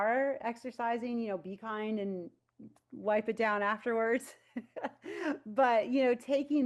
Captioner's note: chuckles